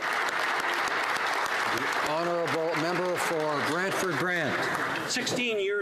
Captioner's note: applause